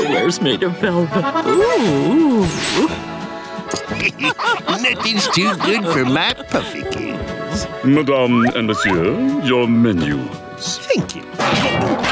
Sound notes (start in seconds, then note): 3.7 laughs